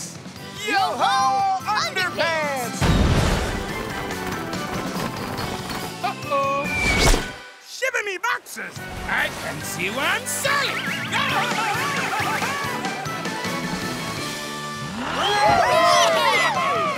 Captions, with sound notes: Yo ho underpants! Uh-oh. Shiver me boxers. I can't see where I'm sailing. [screaming] [cheering]